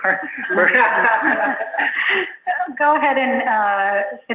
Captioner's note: laughing